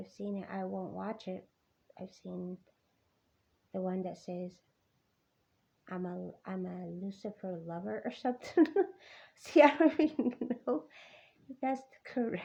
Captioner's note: laugh